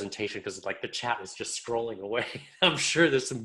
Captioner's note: chuckles